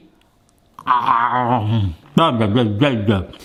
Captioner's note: person groaning